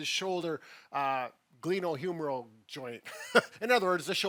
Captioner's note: laughs